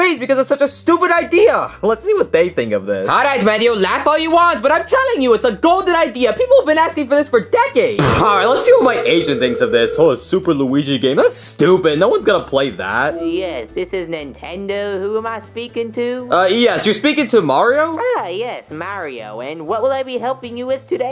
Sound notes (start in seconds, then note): 8.0 scoffs